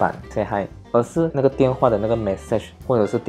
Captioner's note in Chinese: 提示声